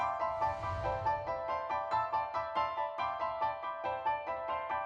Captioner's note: ambient shimmering